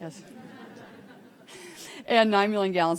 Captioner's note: attendees laughing